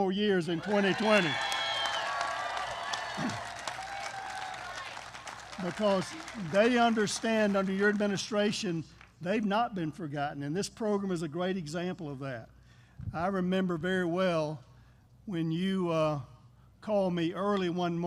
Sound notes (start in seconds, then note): 0.5 applause